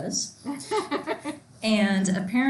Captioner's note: laughs loudly